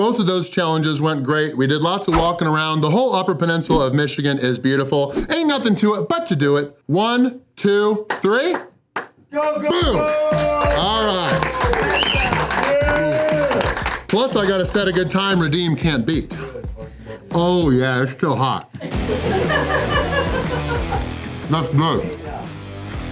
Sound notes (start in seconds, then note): 9.4 crowd; 12.9 crowd clapping